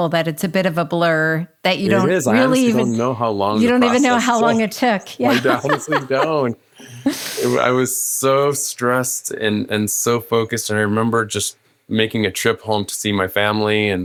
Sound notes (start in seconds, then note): 6.6 laughing